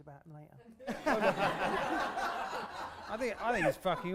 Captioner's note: laughter